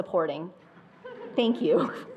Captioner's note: attendees laughing